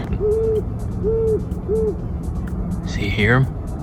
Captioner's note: owl makes his call and ascerts his dominence over his domain